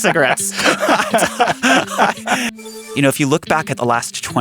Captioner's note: laughing